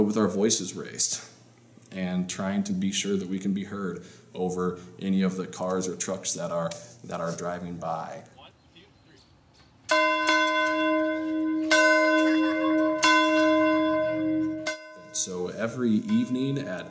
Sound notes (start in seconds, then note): 9.9 bells